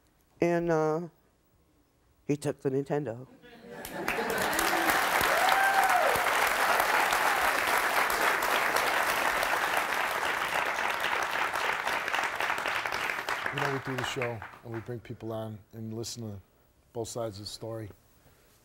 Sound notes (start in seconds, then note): 3.5 audience laughs; 4.3 audience applauds